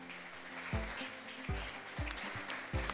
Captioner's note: audience applauds